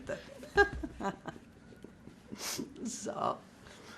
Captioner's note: laughing